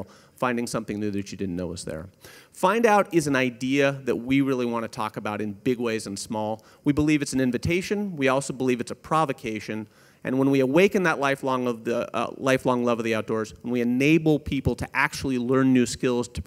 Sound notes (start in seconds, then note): none